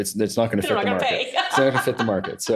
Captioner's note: laughs